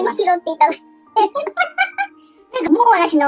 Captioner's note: laughs